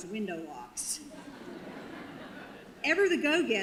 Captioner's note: audience laughter